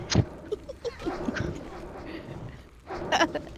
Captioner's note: laughter